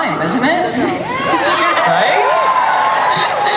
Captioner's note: audience cheers